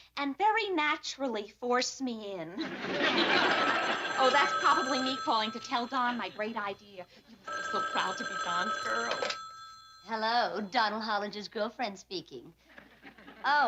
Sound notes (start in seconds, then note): 2.8 phone ringing